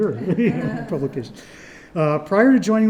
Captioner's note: panel laughs